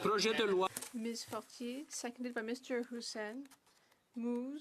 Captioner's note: speaking French